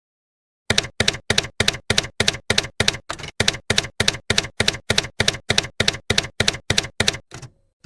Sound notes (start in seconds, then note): 0.7 typewriter keys clacking